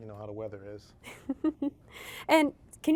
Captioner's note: chuckles